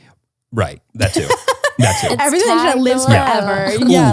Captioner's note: laughs